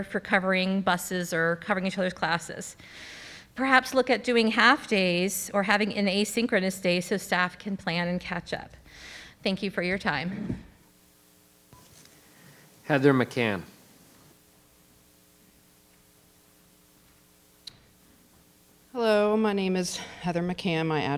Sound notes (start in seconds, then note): 11.6 microphone beeping